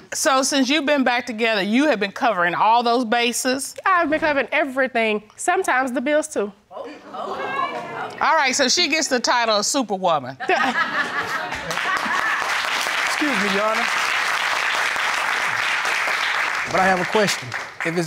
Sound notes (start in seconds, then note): 7.1 audience exclaims; 10.9 audience laughs, applauds